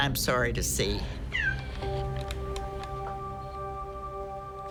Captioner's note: cat meows